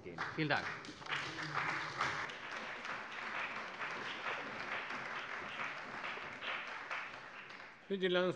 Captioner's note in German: Beifall bei der CDU und dem BÜNDNIS 90/DIE GRÜNEN